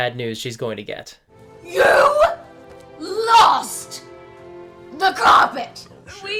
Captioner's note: shouting